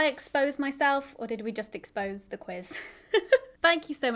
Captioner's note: chuckles